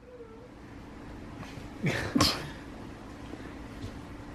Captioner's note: laughs